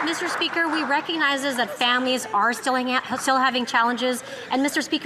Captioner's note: some Applause